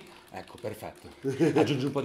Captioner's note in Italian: risata